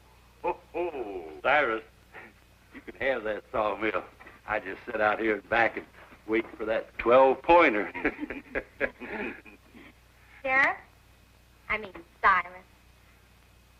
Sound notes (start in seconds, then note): 0.4 laughs; 7.8 laughs